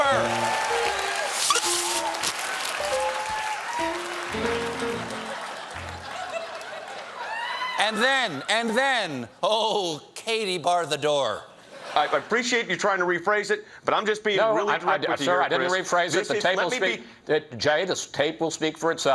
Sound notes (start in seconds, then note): 2.3 laughter; 2.7 piano riff